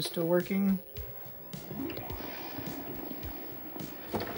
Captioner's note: Xbox booting up